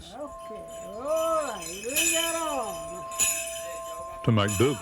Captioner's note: bells jingling